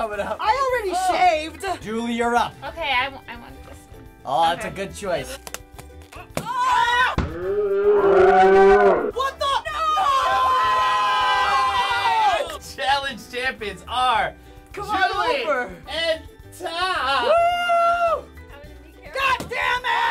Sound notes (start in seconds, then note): 6.1 shouting; 7.1 balloon popping; 7.2 shouting in slow-mo; 9.4 cheering